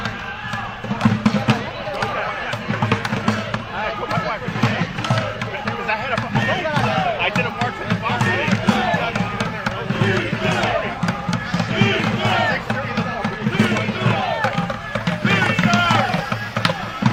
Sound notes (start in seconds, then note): 1.9 chanting